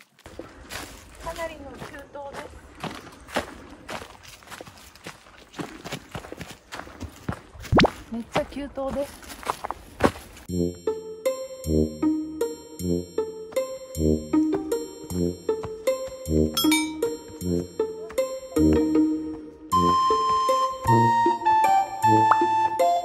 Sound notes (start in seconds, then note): 20.4 laugh